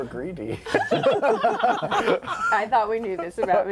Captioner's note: laughter